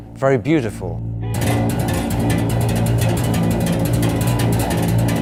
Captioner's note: rhythmic tapping